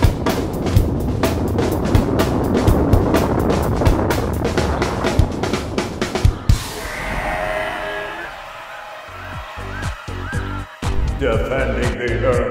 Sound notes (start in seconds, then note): 5.9 dinosaurs cheering